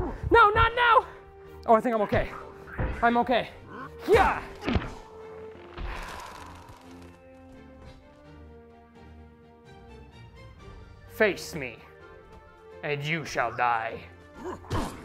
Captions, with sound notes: NO! Not Now! Oh I think I'm okay. I'm okay. Heya! *Sigh* Face me. And you shall die!